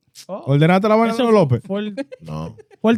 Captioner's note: speaking In Foreign Language